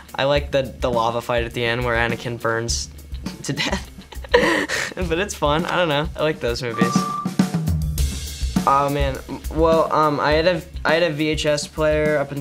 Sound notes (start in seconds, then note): 4.0 laughs; 6.7 beeps